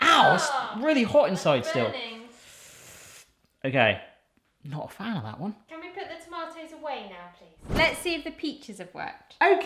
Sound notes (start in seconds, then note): 2.3 hisses